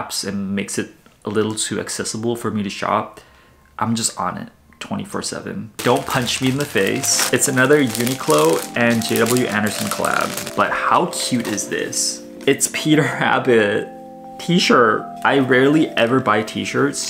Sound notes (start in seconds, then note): 6.7 plastic crinkling